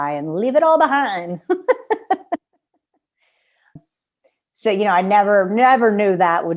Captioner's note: laughter